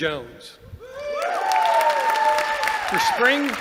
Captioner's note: applause